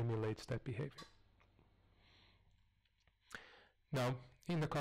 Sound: pause

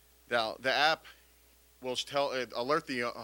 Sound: none

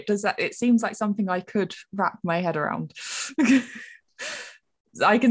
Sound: laughs

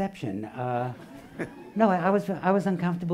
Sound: laughing

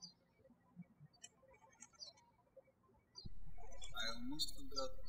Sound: birds chirping

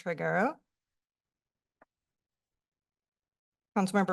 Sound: pause

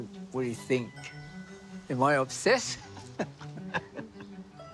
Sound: laughs

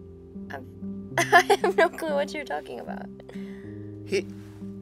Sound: laughs

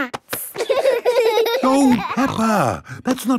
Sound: laughing

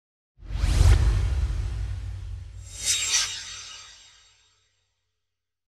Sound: swoosh

